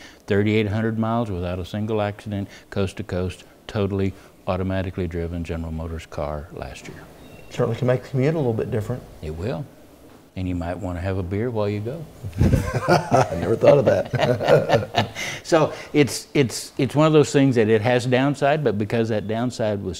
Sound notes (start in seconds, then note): 12.3 laugh